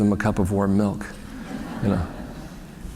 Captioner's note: laughter